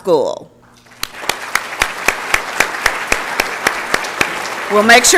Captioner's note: applause